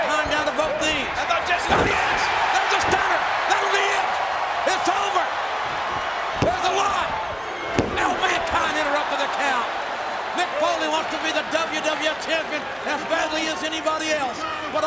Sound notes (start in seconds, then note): 6.3 hand pounding